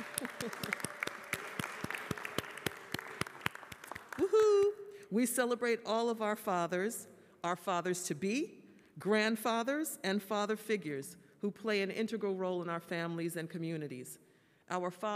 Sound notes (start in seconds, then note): 4.2 applause